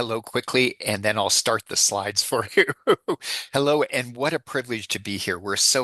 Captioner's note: laughs